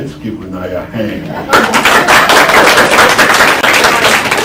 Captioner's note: applause